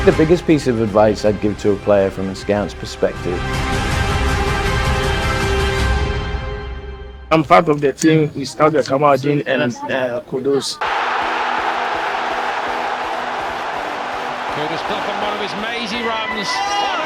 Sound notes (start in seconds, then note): 3.8 dramatic music; 10.7 crowd cheers